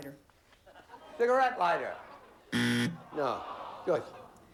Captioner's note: buzzer